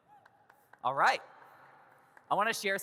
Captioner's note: audience claps